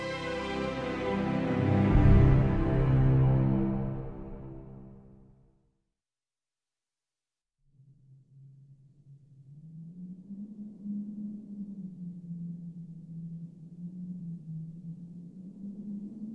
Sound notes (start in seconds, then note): 7.7 wind Whistling